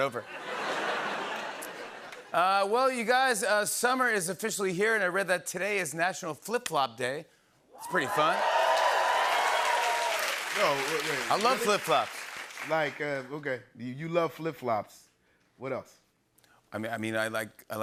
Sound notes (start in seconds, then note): 0.2 laughter and applause; 7.8 cheering and applause